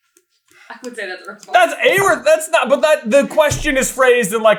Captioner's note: chuckling